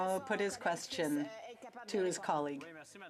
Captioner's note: speaking French